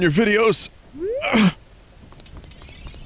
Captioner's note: ahem